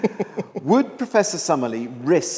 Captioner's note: chuckling